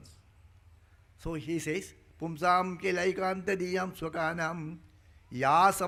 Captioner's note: speaking in Sanskrit